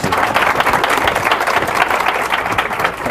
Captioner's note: applause